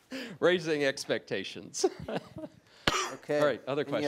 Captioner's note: laughing